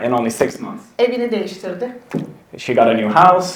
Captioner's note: speaks in Turkish